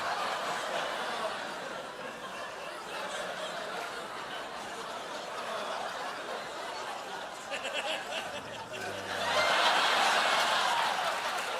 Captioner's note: laughter